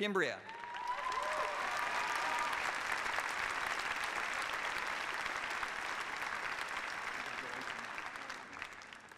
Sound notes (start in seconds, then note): 2.0 applause